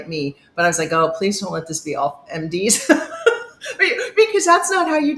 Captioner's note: laughs